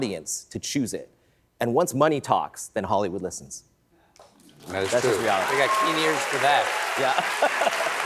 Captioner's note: applause